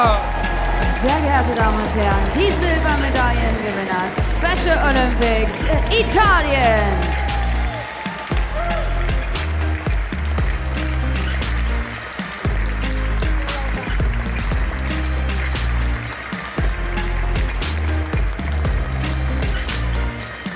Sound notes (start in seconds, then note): 8.1 applause; 9.0 ♫ Midtempo guitar music ♫